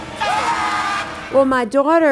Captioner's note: ominous music; screaming